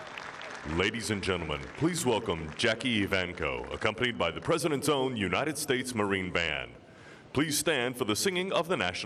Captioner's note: applause